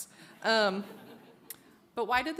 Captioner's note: audience laughs